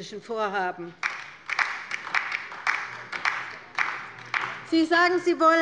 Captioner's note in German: Beifall bei der LINKEN